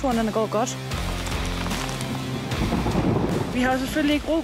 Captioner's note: thunderclap